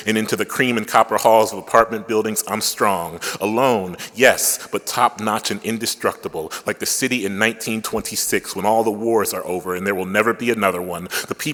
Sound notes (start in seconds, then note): none